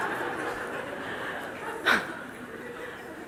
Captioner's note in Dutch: gelach